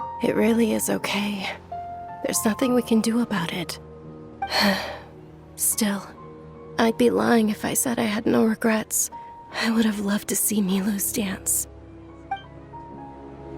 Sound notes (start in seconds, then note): 4.5 sigh